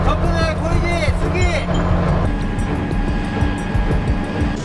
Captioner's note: speaking in foreign language